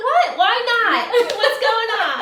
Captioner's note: laughing